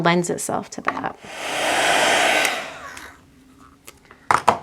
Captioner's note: machine whirring